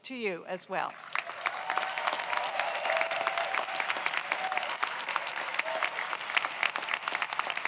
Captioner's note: audience applauds; audience cheers